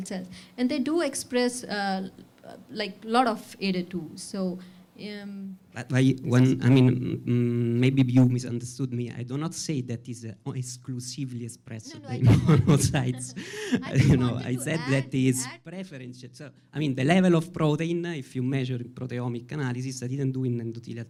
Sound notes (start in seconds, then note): 11.9 laughs